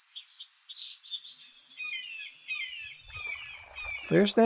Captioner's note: hawk calls